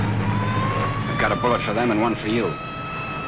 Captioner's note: sirens wailing